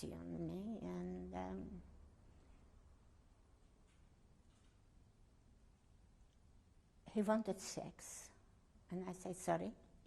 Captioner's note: pauses for 6 seconds